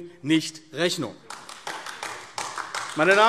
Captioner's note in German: Beifall AfD